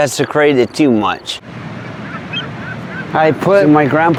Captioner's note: birds